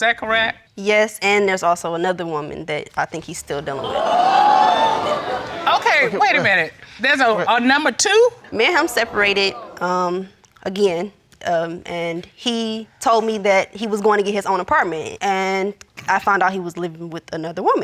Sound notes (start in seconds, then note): 3.4 audience exclaims